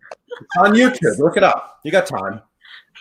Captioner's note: laughing